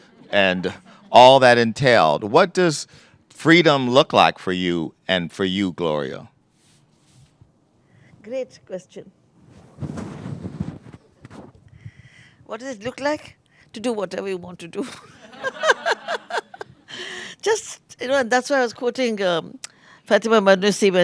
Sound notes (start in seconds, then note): 14.8 laughter